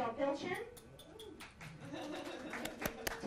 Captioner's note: applause